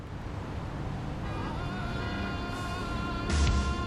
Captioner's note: city noises